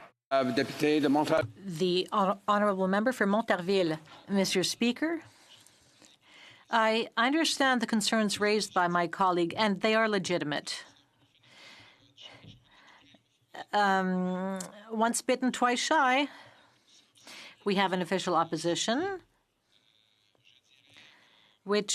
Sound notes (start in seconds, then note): 6.2 speaking French